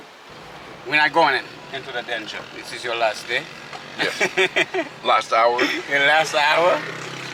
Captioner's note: laughing